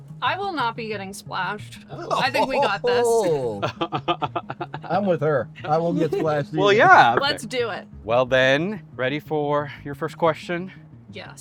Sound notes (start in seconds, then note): 3.7 laughing